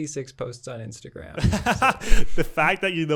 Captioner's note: both laughing